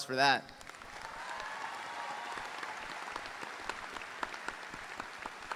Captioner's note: audience applauding; audience cheering